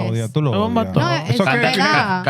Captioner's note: non-english Speech